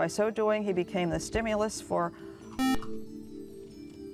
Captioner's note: buzzer